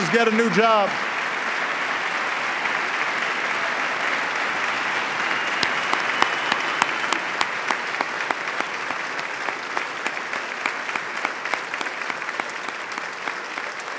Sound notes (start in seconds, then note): 3.5 applause